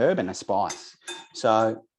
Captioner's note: strainer clinking